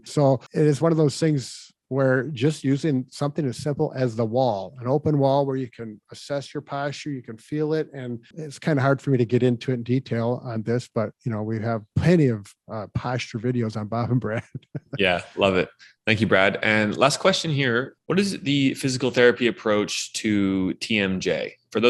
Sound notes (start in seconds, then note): 13.6 chuckles